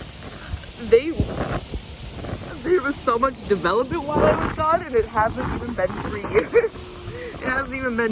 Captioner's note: chuckles